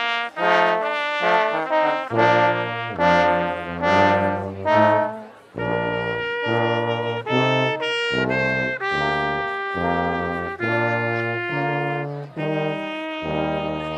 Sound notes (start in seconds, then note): none